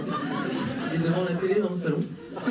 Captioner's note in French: rires